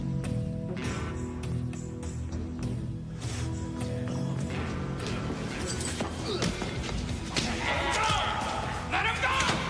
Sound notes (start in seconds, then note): 6.1 grunting